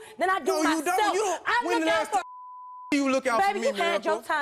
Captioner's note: beep